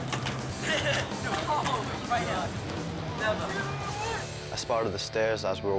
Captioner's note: laughs